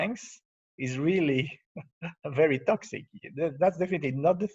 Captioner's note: laughs